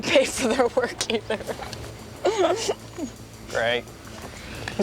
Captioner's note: laughs